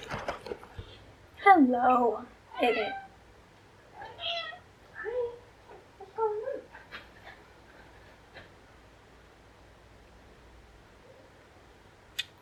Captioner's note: MEOW x2